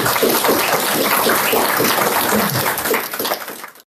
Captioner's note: applause